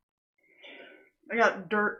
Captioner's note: sighs